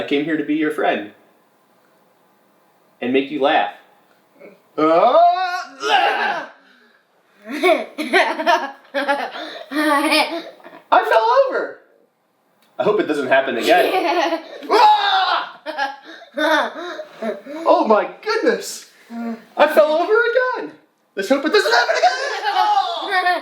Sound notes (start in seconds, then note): 4.8 screaming; 7.4 laughing; 14.6 screaming; 15.9 laughing